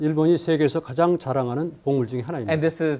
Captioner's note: speaking in Korean